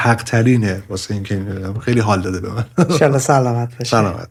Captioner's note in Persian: خنده